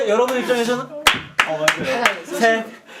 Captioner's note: deep breath